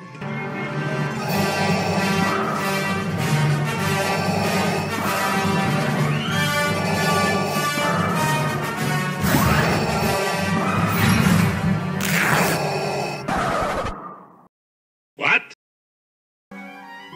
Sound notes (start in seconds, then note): 12.0 fabric ripping sound